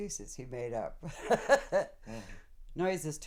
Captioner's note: laughs